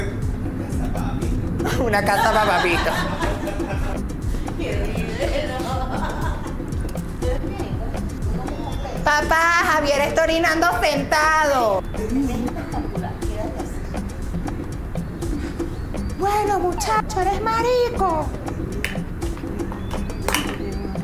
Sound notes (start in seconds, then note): 4.0 chatter in background